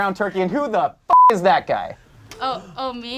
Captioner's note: beep